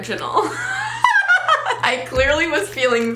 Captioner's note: laughs